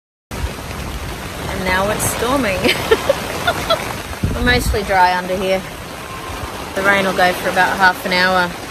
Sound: cackles

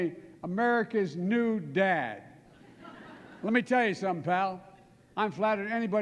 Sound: laughter

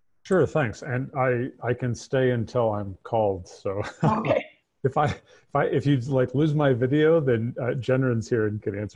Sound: laughs

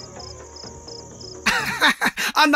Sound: laughs

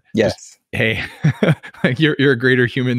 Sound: laughs

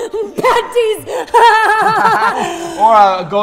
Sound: laughing

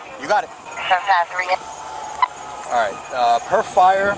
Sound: radio dispatching in background

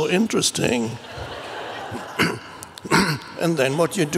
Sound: crowd laughs

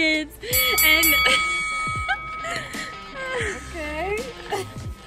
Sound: bell dinging

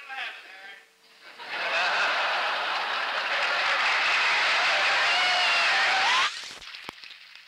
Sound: laughter, applause

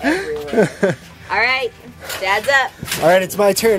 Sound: laughs

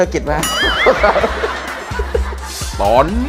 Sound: laughter

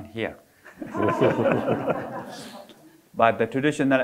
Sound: audience laughing

